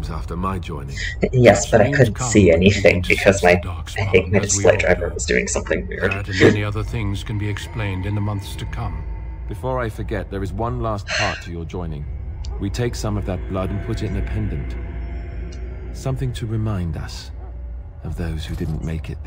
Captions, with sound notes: Yes, but I couldn't see anything, because my - I think my display driver was doing something weird. [Laughter] [Sigh]